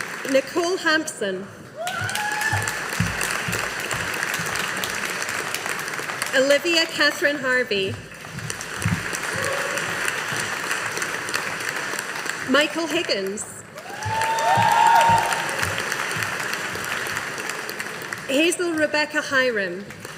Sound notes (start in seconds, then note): 1.8 audience applauding; 8.1 audience applauding